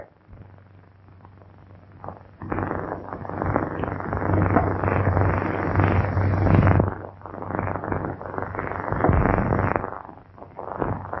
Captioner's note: pounding